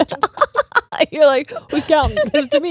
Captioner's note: laughing